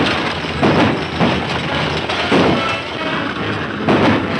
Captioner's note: gunshots